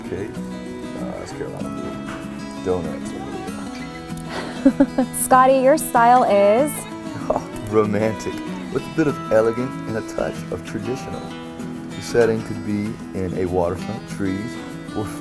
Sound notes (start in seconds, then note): 3.8 murmurs